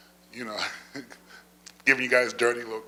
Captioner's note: laughs